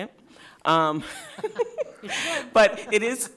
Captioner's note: light laughter